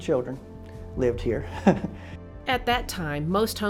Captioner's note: chuckles